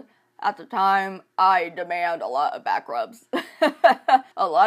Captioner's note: laughs